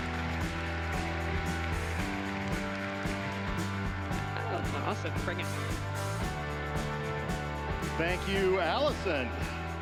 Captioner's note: applause